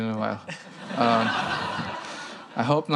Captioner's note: laughter